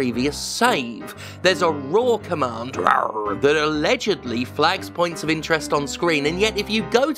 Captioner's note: rawr